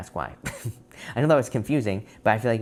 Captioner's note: laughs